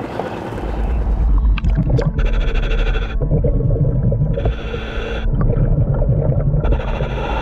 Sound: ominous music continues; mouthpiece hissing

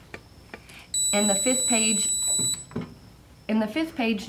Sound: instrument beep

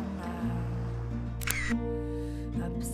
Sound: camera shot

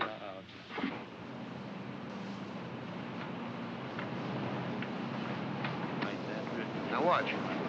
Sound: low frequency hum

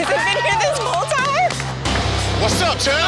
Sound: applauging

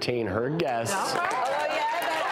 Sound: applause

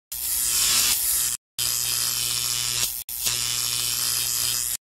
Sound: electric buzzing sound

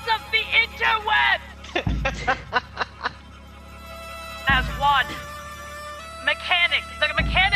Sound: laugh

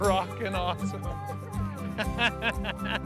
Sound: chatter; laughs

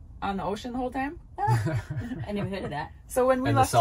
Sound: laughing

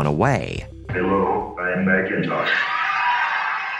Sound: computer Voice

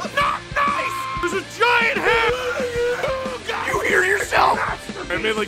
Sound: screaming; Harry potter screaming

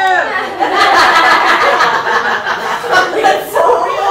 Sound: laughter

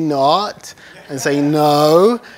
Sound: laughter

